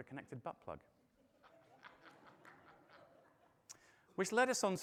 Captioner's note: audience laughing